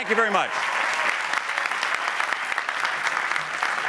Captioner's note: applause